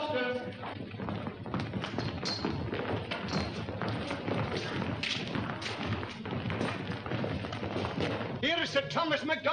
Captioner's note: footsteps & bodies shuffling